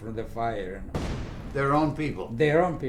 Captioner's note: explosion